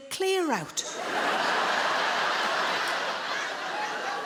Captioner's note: audience laughing